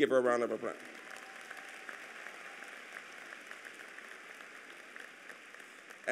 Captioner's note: applause